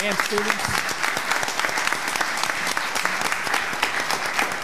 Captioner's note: audience clapping